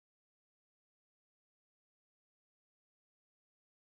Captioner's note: none